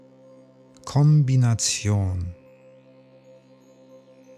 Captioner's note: german